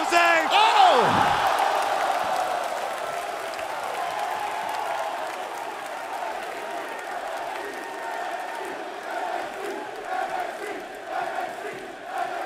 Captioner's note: crowd cheering